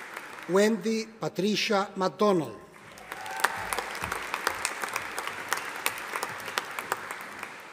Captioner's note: audience applauding